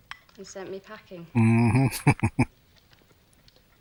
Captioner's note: chuckling